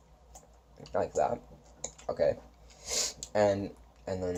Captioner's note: sniffles